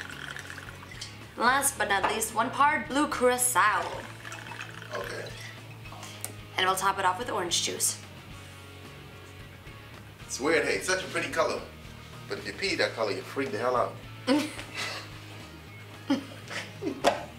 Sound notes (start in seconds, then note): 14.3 laughing